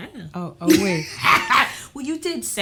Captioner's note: laughs